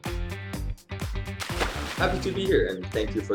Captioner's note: splash sound